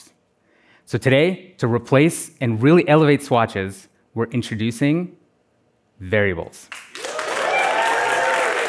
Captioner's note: applause